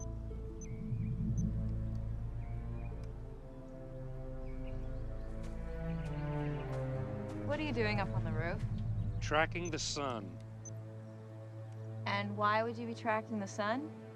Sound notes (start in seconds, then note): 3.9 bird chirp